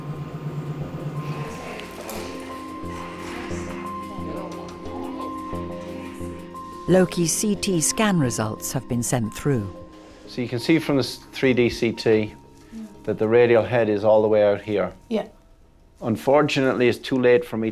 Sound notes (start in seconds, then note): 2.1 people chattering; 2.1 slow tense music